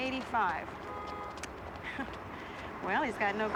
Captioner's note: laughs